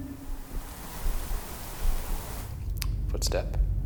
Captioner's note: white noise shushing